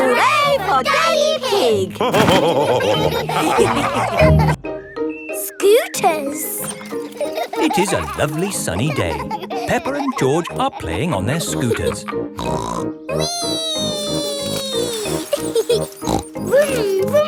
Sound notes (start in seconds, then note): 2.0 all laughing; 12.3 snorts; 15.1 laughs and snorts